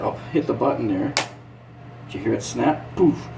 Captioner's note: button snapping